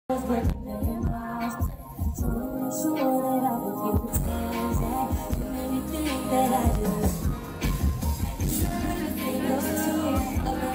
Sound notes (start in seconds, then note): 0.6 harmonizing; 6.8 quietly